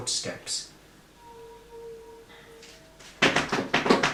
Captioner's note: rushing footsteps